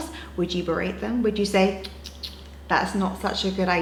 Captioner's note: tongue clicking